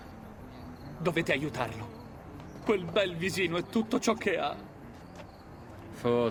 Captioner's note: sarcastic